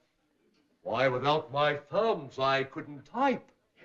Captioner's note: accented voice